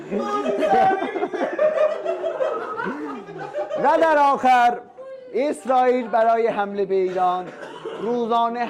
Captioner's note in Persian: خنده